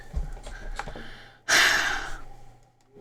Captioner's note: sigh